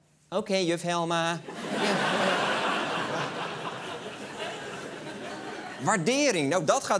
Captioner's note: laughter